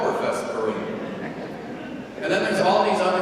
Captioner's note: congregation laughing